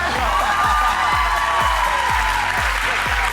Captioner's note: applause